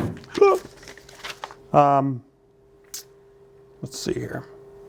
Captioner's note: imitates crying